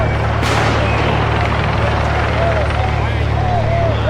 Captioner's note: gun fires